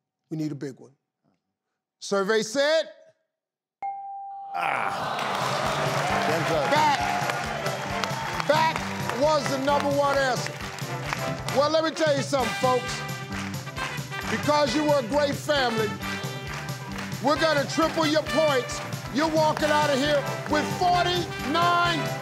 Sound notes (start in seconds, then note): 3.8 bell dings; 4.6 audience groans